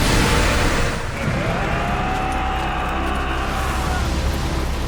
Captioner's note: charging men dying noises